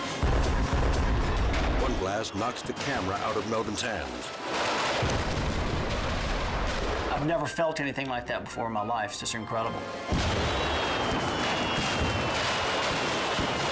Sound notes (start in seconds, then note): 0.0 fireworks exploding; 10.0 fireworks exploding